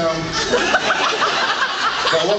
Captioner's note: laughs